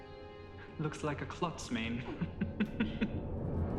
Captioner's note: laughs